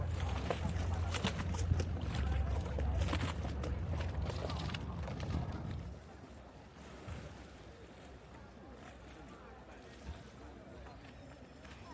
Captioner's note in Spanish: Sonido de la ciudad